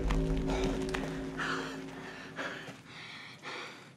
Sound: heavy breathing

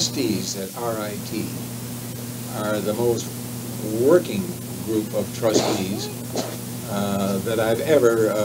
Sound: sneezes

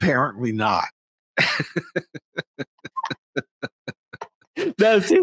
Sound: laughing

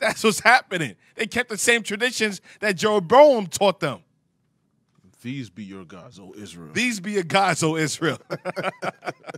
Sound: laughing

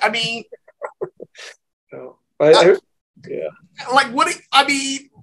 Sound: laughs

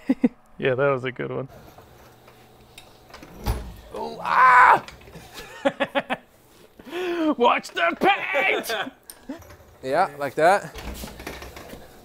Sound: screams; laughs

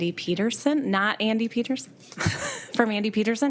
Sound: laughs

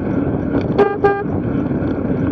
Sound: toot toot

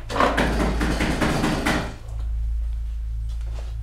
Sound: banging

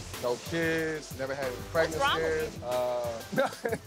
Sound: laughs

